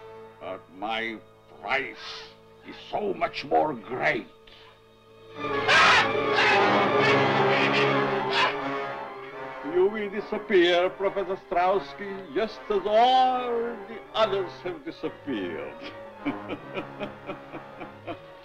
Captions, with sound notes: But my price is so much more great. (suspenseful music) (Strowski screaming) You will disappear, Professor Strowski just as all the others have disappeared (chuckling).